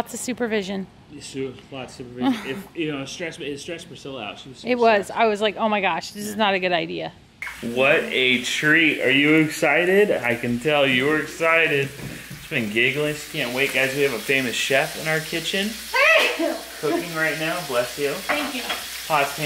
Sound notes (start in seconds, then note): 16.0 sneezes